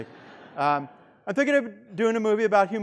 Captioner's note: student laughing